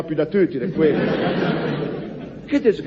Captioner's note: laughs